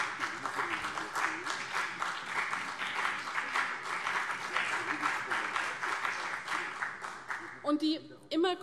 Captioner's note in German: Beifall CDU und BÜNDNIS 90/DIE GRÜNEN